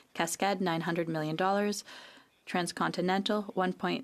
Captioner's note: speaking French